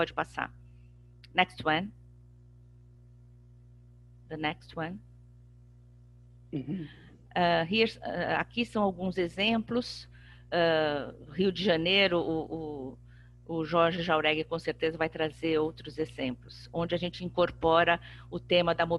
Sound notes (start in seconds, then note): 8.4 speaking portuguese